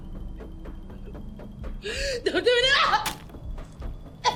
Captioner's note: crying